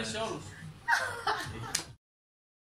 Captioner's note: laughter